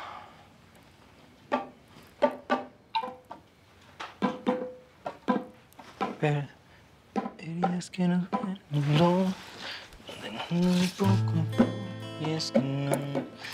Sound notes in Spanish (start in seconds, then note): 2.3 Susurra; 11.3 Ríe